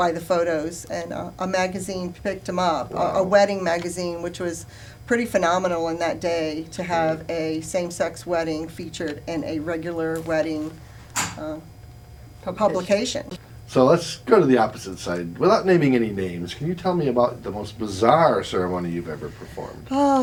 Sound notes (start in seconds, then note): none